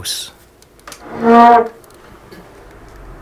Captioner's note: door hinges squeaking